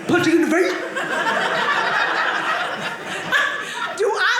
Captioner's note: audience laughing